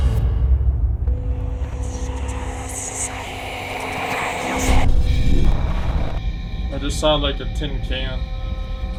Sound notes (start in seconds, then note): 4.4 flashback whoosh